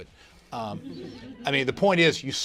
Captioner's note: laughter